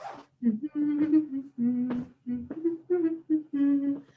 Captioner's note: humming